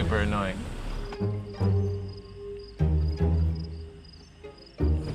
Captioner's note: insects chirping